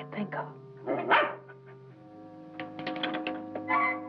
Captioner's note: dog barking